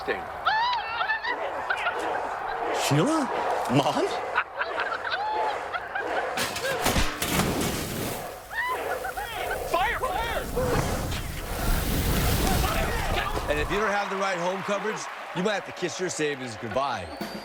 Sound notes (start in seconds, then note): 1.3 indistinct chatters from TV; 4.0 laughter; 6.4 metallic thuds